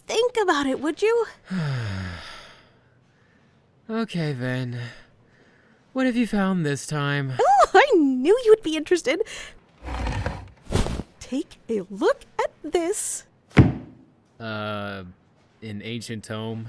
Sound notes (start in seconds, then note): 3.3 heavy sigh